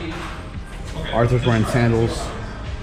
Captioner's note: men talking in the background